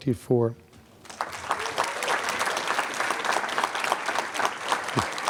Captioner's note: applause